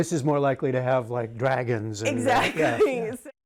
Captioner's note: laughter